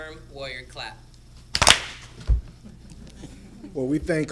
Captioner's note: clapping